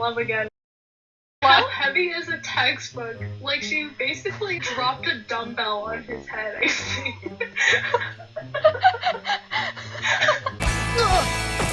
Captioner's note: both laughing